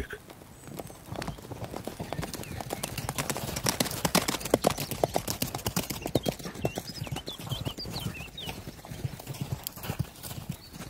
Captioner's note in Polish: Dźwięk galopujących koni